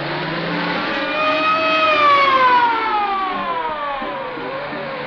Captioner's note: sirens blaring